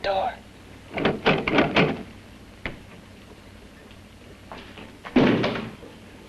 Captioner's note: doorknob rattling